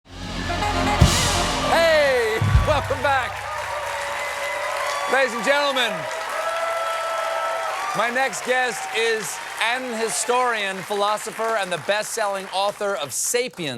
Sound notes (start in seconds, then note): 1.5 cheers and applause